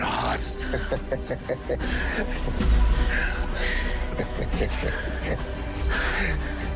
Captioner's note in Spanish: Chacorta ríe